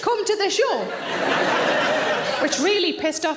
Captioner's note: audience laughs